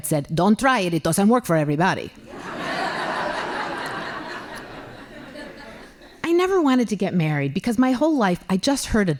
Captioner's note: laughing